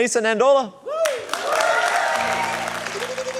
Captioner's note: cheering, applause